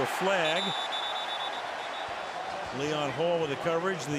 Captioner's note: whistle